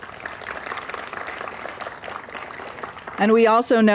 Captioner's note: applause